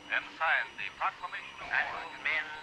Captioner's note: radio interference